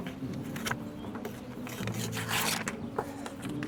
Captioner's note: paper ripping